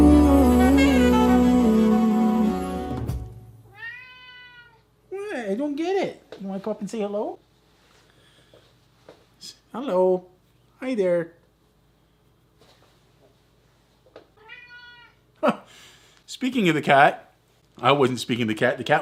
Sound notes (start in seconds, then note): 3.6 more cat meowing; 14.3 cat meow, again